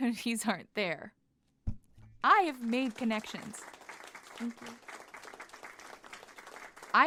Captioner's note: audience applause